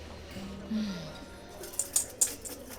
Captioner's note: Esperanza suspira